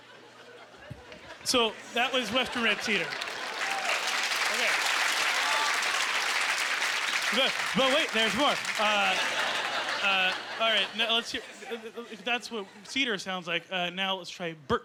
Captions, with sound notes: (Laughing) So, that was western red cedar. (Clapping) No, wait. There's more. All right, that's what cedar sounds like.